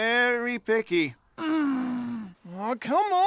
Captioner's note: Amy growls